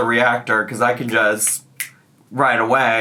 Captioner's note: snapping fingers